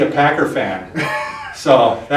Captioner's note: laughs